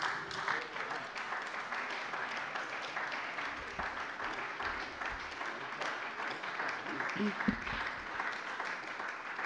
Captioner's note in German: Beifall bei der CDU